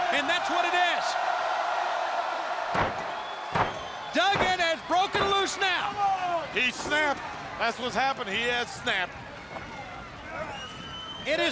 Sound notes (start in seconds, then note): 1.9 crowd cheering